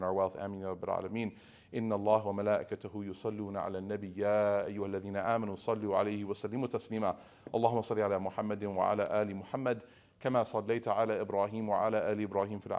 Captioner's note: speaking Arabic